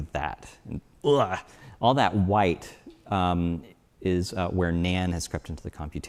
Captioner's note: groans